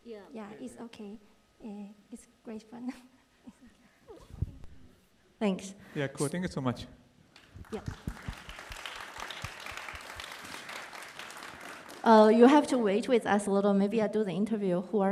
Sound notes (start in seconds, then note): 7.3 applause